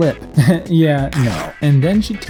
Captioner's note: stitching tearing